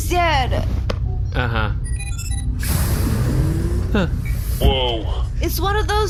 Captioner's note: the door slides open